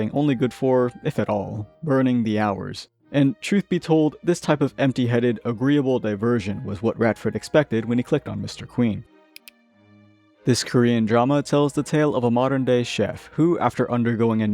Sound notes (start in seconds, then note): 9.3 click